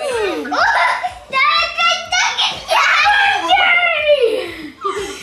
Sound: children shouting excitedly

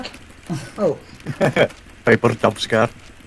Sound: laughing

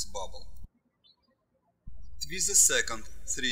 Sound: birds chirping

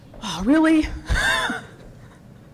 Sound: laugh

